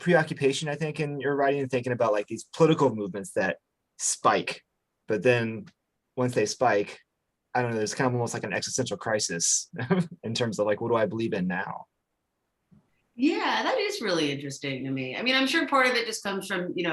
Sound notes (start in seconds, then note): 9.6 chuckles